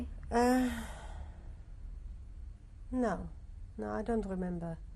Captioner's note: sighs